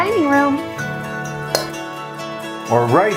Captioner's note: glasses clinking